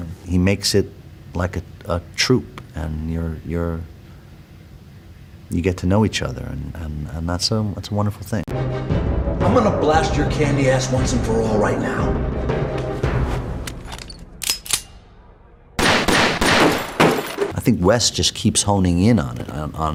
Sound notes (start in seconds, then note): 8.5 intense music; 15.7 gunshots